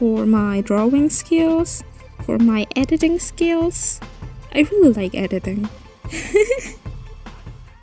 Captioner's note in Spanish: risas